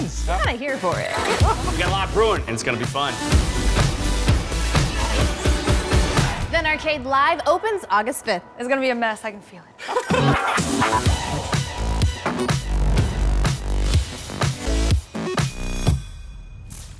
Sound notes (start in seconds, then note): 9.8 laughs